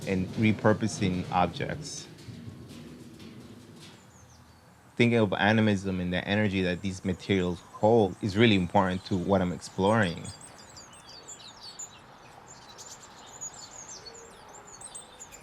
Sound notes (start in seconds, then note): 10.5 birds chirping